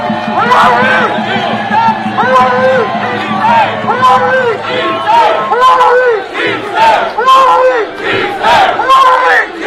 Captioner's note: applause